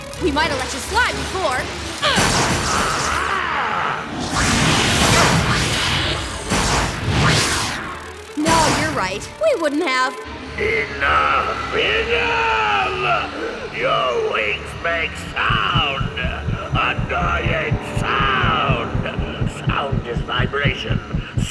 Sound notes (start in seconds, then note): 2.6 growls